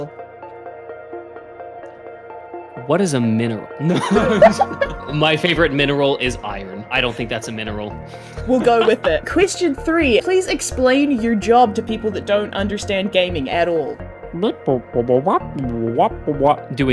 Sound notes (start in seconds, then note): 0.1 tense music playing; 3.8 laugh; 8.2 laughs